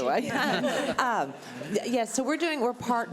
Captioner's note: laughing